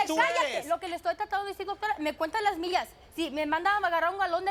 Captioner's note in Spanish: Hablan al unísono